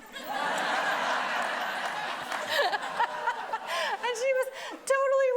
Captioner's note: everybody laughing